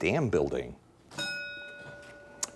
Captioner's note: bell dinging